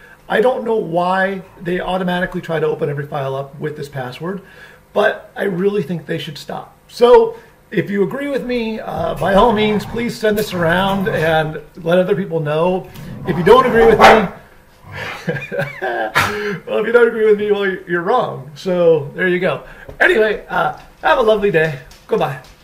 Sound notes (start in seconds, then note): 12.8 laughing; 13.1 dog barking